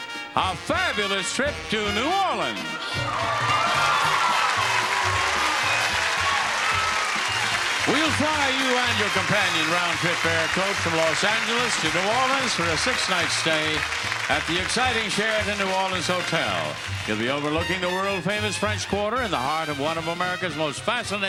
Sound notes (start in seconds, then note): 2.6 audience applauding; 2.6 lively music